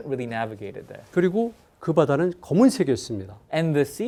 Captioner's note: speaking in Korean